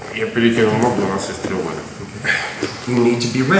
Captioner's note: speaking in a foreign language